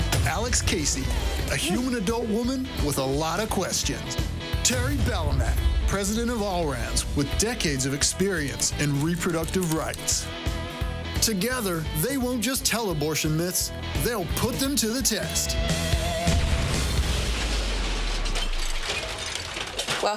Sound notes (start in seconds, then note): 0.0 voiceover; 16.2 explosion; 18.1 metal clangs